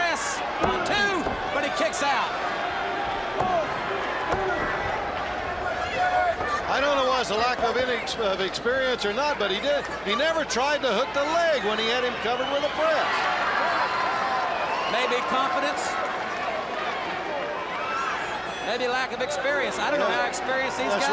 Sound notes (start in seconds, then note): 2.9 crowd chatter